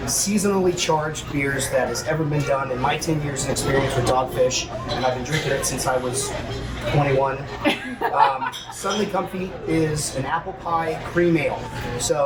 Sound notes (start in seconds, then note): 7.5 laughter